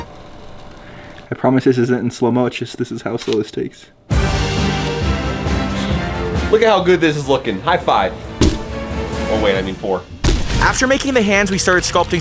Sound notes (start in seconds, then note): 0.0 device whirring; 4.0 intriguing dramatic music; 8.3 foam thuds; 10.2 foam thuds; 10.2 explosion booming